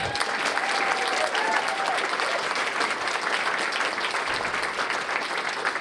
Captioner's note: cheers and applause